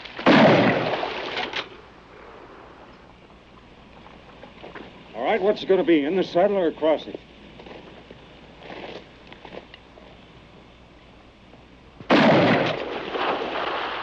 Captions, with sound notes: [gunshot] [gun cocking] All right, what's it gonna be? In the saddle or across it? - [gunshot] - [gun cocking]